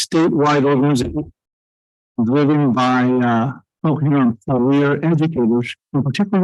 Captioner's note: audio echoing